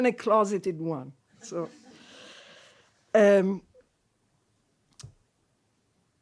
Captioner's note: laughter